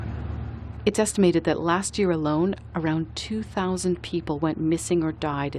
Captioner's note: voice-over